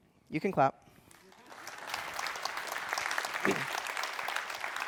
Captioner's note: applause